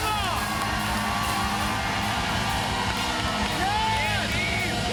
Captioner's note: cheers and applause continue